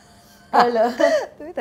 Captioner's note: Chuckles